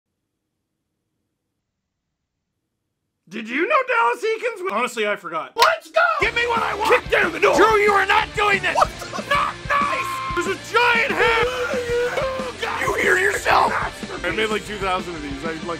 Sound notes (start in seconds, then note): 0.0 stare in stunned silence; 9.0 screaming; 11.6 Harry potter screaming